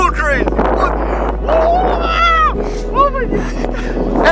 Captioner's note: screaming